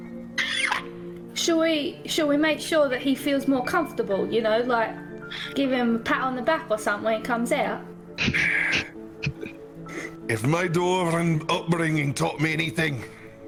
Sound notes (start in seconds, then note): 0.4 cackles; 8.3 sighs